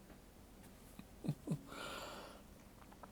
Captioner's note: chuckles